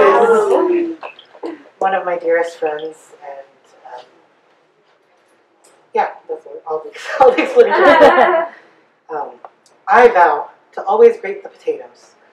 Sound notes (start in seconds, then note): 0.0 audience awws; 7.3 audience giggles